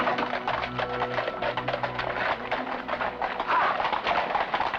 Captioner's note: hooves trotting